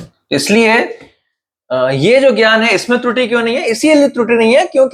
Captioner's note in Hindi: नाक से की जाने वाली आवाज़